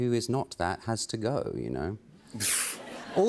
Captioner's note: laughter